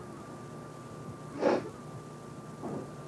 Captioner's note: sniffs